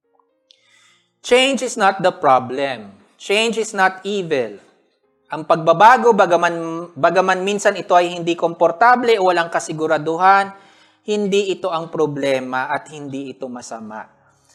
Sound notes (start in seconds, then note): none